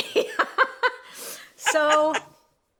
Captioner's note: both laugh